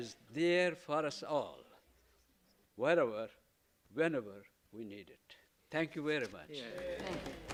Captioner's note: applause